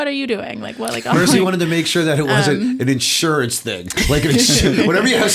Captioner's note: laughter